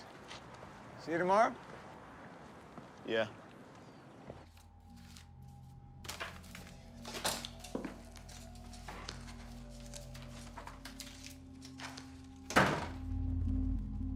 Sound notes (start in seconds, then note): 12.4 door closes